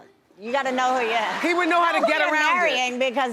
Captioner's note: audience laughs